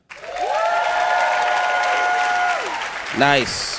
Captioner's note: audience cheering